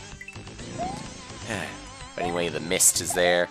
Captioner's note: sigh